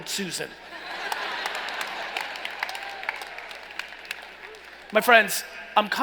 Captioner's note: laughing and applauding